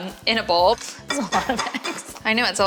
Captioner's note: laughs